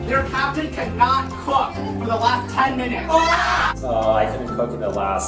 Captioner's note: screaming and yelling